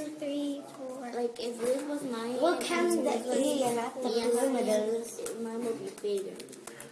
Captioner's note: all children talking